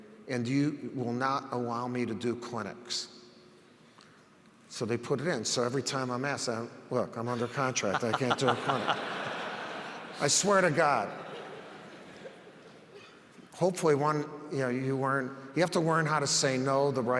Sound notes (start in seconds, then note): 9.2 audience laughs